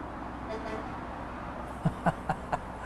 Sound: semi-truck horn beeping; laughs

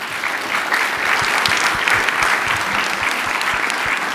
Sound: applause

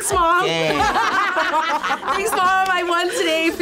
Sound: group laughs

